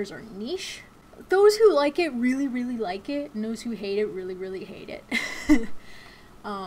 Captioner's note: chuckles